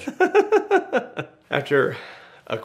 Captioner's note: laughing